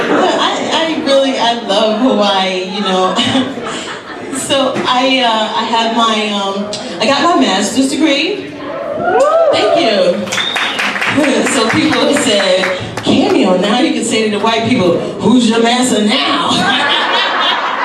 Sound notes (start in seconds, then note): 8.7 audience cheers; 16.6 laughs